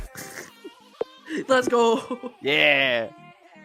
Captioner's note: laughing